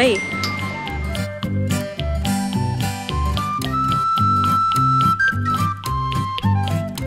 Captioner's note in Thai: ปรบมือ